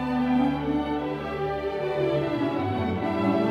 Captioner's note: none